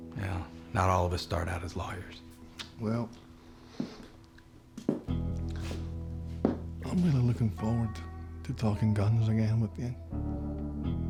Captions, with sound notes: WELL, NOT ALL OF US START OUT AS LAWYERS. [SCOTTISH ACCENT] WELL... [FOOTSTEPS] I'M REALLY LOOKIN' FORWARD TO TALKIN' GUNS AGAIN WITH YOU.